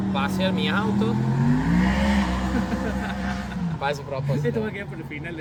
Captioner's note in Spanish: sonido de moto acelerando